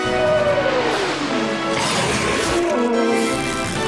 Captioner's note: snarls; whimpers